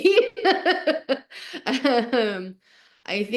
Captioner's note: laughing